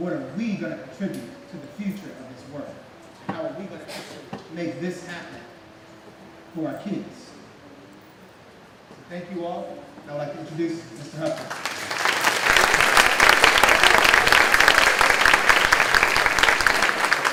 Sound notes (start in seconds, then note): 11.2 clapping